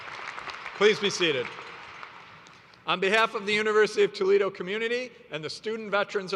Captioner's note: applause